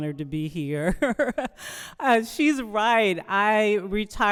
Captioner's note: laughs